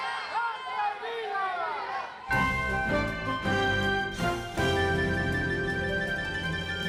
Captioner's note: crowd chanting